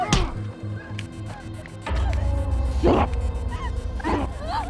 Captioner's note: fist punching